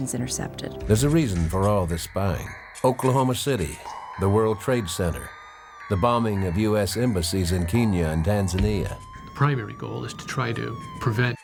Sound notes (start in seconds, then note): 7.1 siren wailing